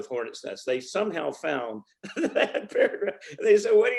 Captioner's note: laughs